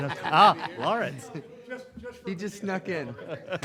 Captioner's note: group laughs